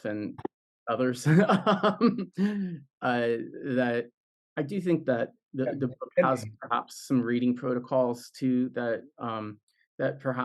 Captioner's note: laughs